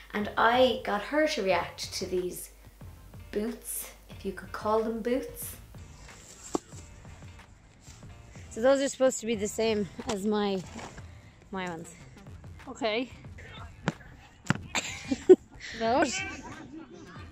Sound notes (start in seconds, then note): 14.7 laughs